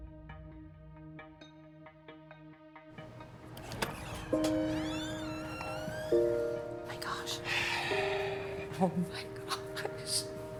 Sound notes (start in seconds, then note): 7.1 sighs